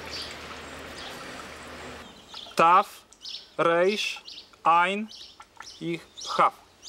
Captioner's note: reading in Hebrew